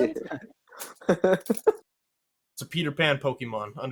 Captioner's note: everyone laughs